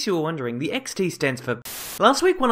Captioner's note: Static